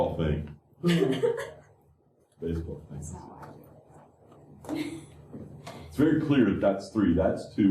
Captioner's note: laughter